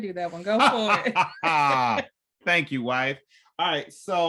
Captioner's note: laughs